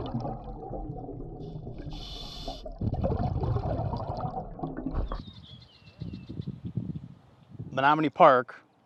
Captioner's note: water bubbling